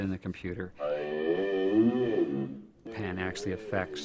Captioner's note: vocalizations being digitally bent